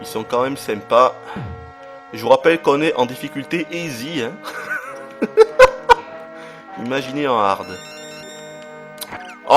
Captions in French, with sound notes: Il sont quand même sympas. Je vous rappelle qu'on est en difficulté Easy. (rires) Imaginez en Hard.